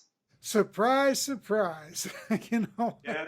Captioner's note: laughs